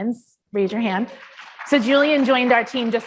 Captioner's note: audience applauds